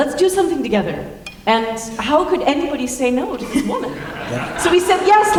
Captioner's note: laughter